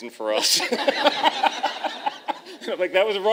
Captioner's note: laughter